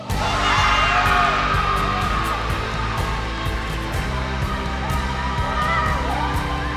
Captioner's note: cheering